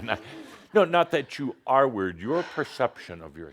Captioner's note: Adamus chuckles